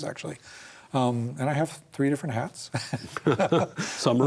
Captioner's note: both laugh